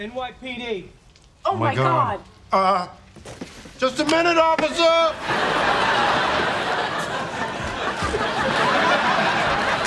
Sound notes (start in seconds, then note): 5.1 audience laughing